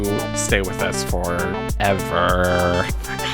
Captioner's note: whispering